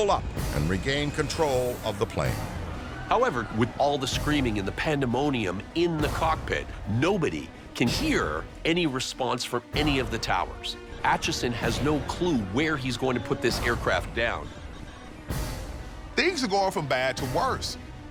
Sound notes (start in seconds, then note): 1.4 passengers scream